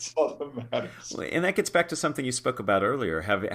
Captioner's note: laugh